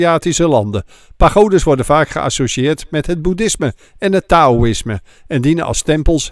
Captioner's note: voiceover